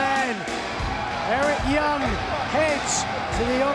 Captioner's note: fans cheering